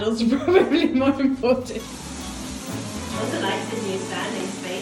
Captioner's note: laughs